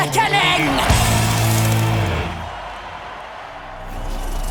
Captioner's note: crowd cheering